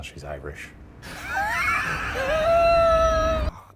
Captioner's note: Ryan laughing; Shane laughing